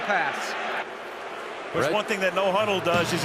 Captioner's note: booing